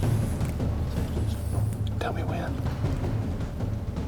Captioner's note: whispering